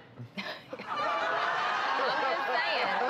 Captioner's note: laughing